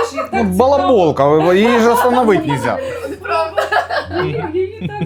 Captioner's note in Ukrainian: сміх